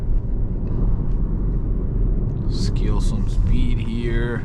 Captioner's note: car engine roaring